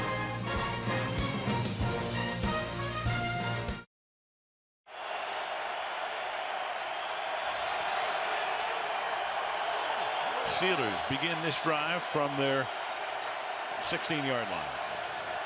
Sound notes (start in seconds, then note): 5.3 crowd cheering